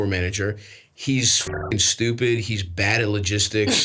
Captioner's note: beeps